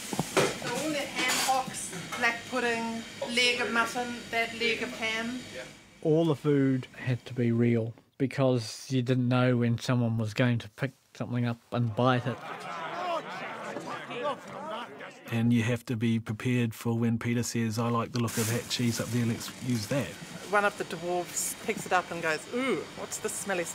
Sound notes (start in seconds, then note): 12.0 chattering